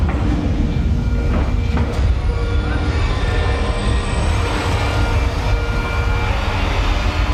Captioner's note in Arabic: صرير الإطارات